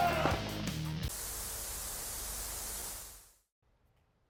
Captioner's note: static